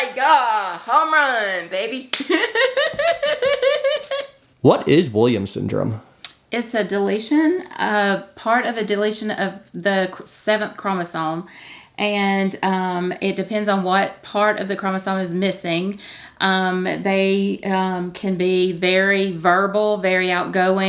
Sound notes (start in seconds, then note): 2.2 laughs